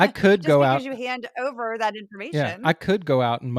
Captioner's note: laugh